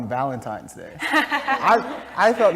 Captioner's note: laugh